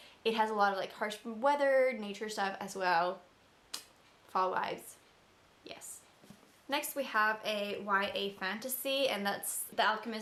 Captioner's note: tongue kiss